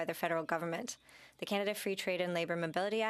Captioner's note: speaking French